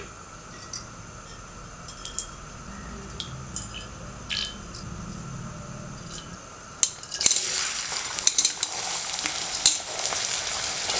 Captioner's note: sizzling oil as onions start to fry